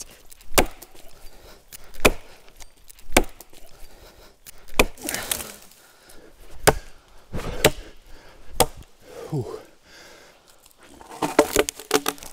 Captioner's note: chopping wood